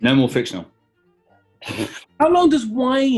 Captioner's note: splutters